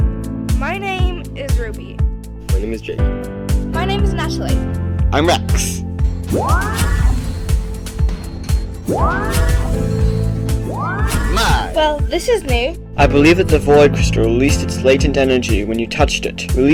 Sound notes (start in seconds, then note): 6.1 mystical sounds